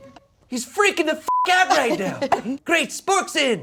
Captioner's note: beep